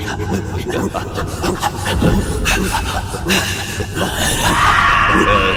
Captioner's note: panting and animalistic tribal braying